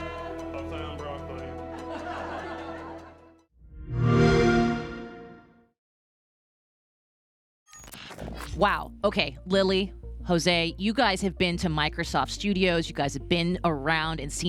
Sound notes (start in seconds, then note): 1.4 laughter; 3.8 xbox sound